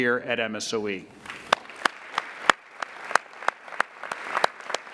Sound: applauding

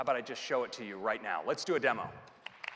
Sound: applause

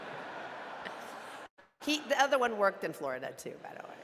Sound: audience laughing

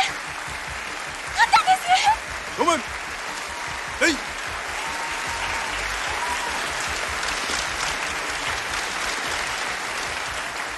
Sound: applause

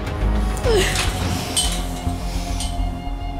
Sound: sobbing

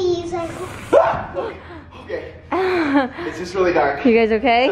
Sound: yells; chuckles

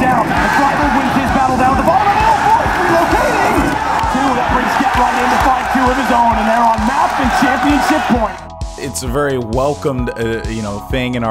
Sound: applause

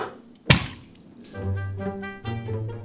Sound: splash

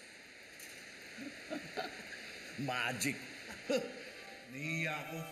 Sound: chuckles

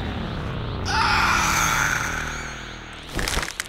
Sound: squealing; cracking

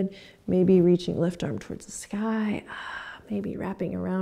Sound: sighs

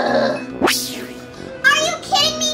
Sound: Romeo grunting; transition whooshing

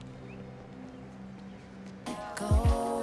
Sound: birds chirping; r&b music

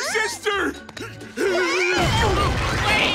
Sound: screaming

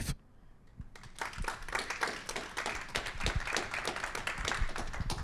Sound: applause

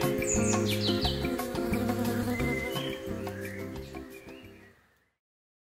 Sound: insect buzzing

